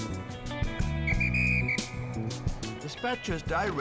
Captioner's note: whistle tweeting